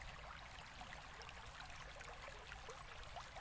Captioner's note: water splashing